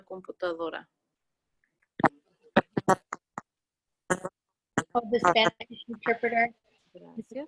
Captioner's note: in English